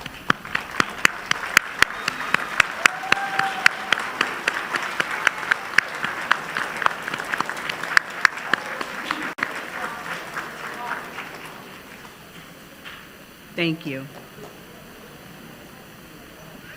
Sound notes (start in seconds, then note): 3.5 applause